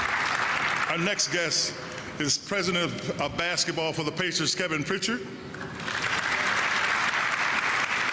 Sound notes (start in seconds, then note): 0.0 applause